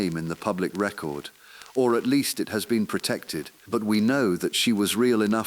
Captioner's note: exhale